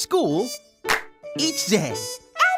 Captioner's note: clap